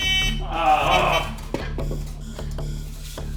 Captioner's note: hooter buzzing; intense music